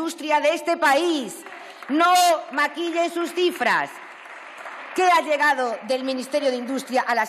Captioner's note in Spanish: Aplausos